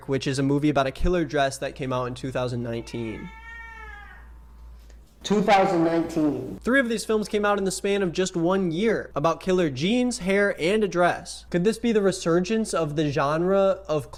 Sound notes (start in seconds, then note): 2.5 Bambi meows